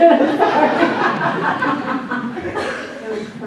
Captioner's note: laughs